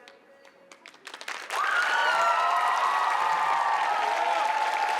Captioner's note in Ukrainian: оплески